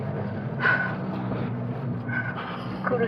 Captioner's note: breathing out